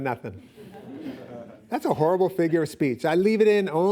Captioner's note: laughing